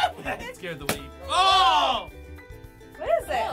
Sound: balloon popping

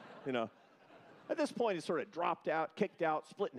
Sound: laughter

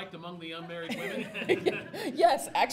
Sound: voiceover; audience laughs

